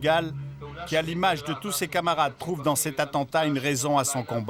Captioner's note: Hebrew spoken audio